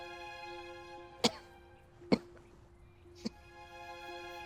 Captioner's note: elizabeth coughs